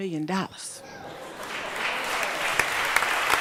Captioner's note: applause